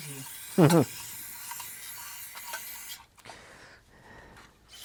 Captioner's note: chuckles